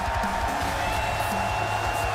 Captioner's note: crowd cheers